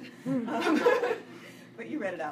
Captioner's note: laughs